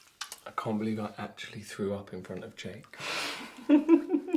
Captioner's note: laughing